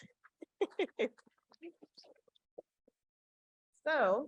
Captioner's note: chuckles